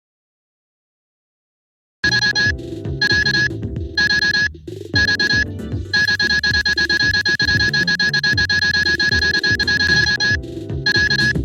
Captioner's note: alarm sound